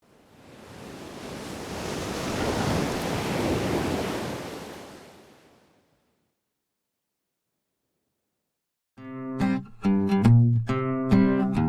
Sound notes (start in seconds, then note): 2.6 waves crashing